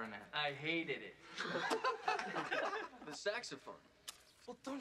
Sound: the other boys laughing

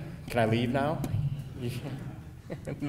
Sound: audience laughing

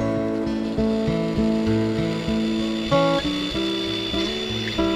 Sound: band saw buzzing

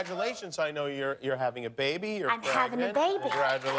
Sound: cheers and applause

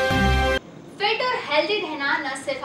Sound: hindi

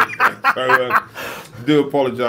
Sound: laughing

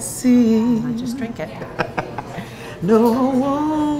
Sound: laughing

